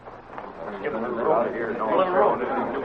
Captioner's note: chatter